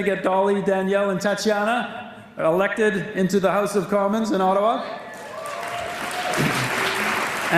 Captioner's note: applause